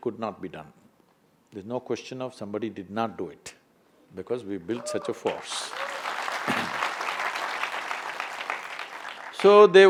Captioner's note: applause